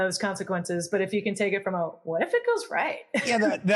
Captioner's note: laugh